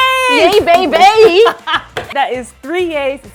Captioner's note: laughs